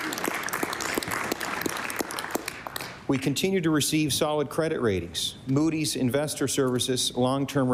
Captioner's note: applause